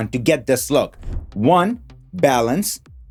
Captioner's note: graphics whooshing